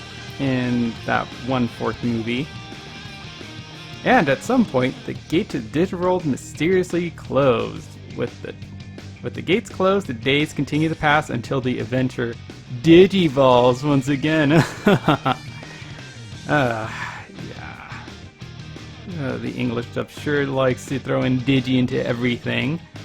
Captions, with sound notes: ...in that one fourth movie. "And, at some point, the gate to the Digital World mysteriously closed." "With the gates closed, the days continued to pass, until the adventure 'digivolves' once again." [Mock laughter] *Sigh*...Yeah... The English dub sure does like to throw in "digi" to everything.